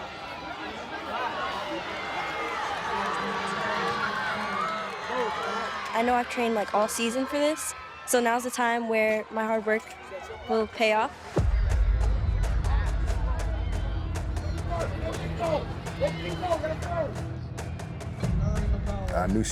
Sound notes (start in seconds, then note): 1.9 crowd chattering; 5.0 crowd chattering; 14.7 intense music; 18.2 intense music